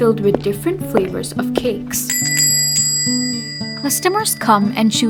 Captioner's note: sound of footsteps and bell ringing